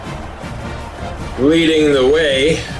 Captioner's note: crowd Noises